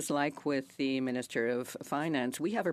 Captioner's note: speaking French